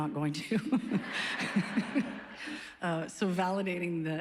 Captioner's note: laughs